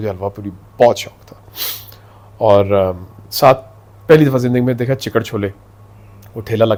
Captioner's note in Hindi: नाक से की जाने वाली आवाज़